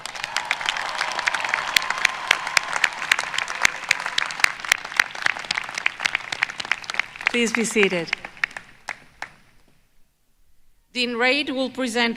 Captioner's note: applause